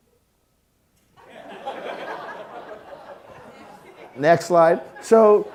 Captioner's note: audience laughing